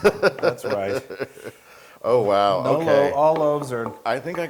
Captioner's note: laugh